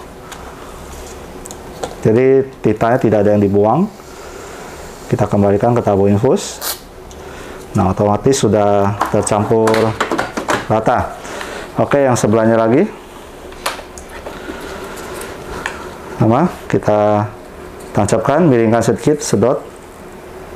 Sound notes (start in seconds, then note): 6.6 injecting tube sound; 11.1 inhale; 20.3 injecting damper sound